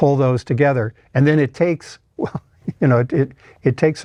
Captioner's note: laughs